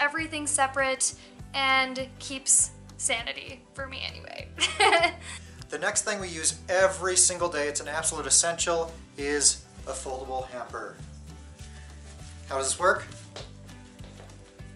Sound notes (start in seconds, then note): 4.6 laughter